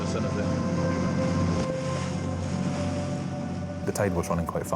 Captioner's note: lifeboat engine whirring; water splashing